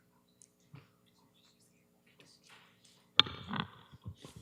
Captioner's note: whispering